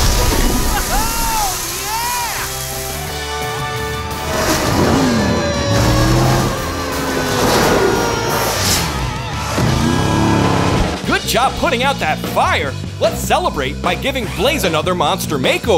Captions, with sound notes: Oh, yeah! [siren blaring] Good job putting out that fire. Let's celebrate by giving Blaze another Monster Makeover.